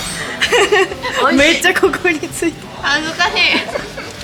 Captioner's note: laughs